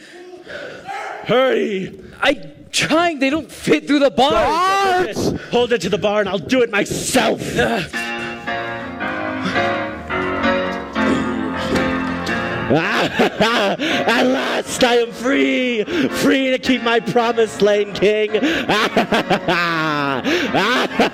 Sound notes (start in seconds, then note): 12.6 laughing